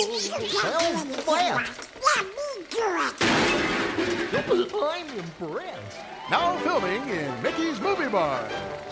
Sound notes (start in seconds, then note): 3.2 background metal clanging; 4.4 distant Goofy chuckling